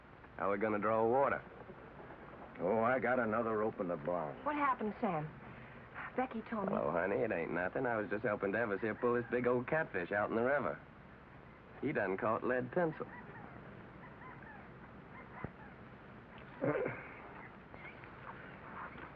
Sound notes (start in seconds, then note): 16.5 Devers stammers